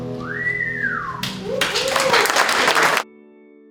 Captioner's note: cheering